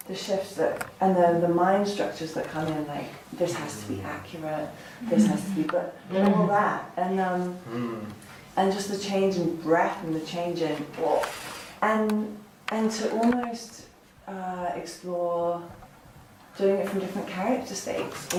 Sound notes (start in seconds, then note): 10.2 she makes a sound of discomfort